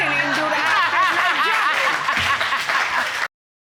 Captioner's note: all laughing and clapping